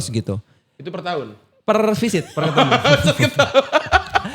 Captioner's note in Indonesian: tertawa